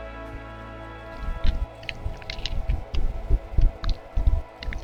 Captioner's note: rustling sound